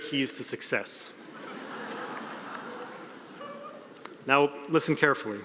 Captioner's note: audience laughing